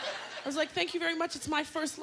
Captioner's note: laughter